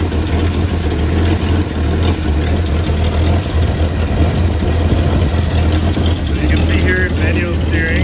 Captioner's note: engine Noise